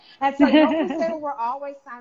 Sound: laughing

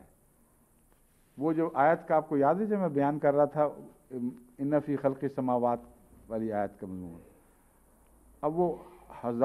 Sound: Arabic

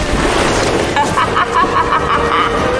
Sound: laughter

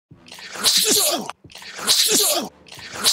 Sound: grunts

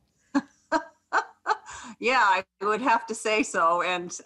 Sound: laughs

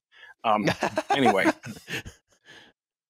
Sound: laughter

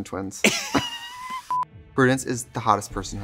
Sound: laughing

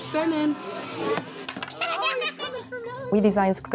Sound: children laughing

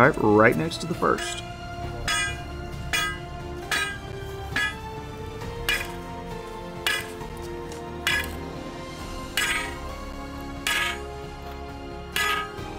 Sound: hammering Sounds

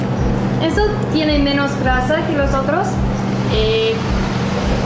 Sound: speaking in Mexican

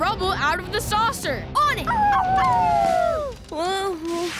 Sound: howling

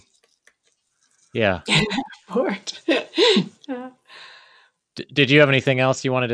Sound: laughs

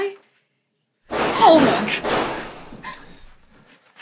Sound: gunshots

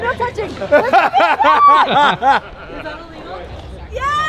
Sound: man laughs

